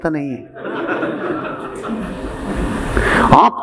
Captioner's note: laughing